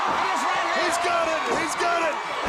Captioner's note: crowd cheering